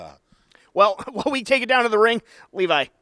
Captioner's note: chuckles